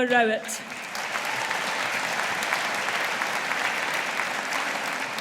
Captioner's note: audience applauding